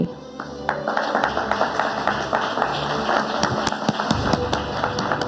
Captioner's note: audience applauding